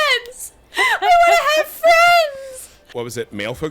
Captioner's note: crying